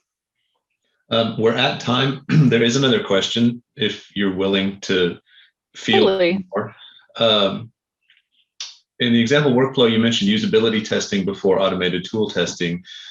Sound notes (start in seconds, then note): 5.7 audio distorts